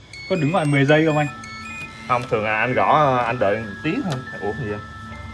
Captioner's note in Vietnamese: none